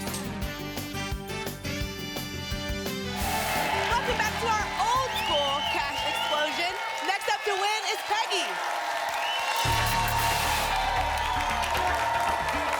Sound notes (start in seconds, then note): 3.1 applause and cheering; 9.5 static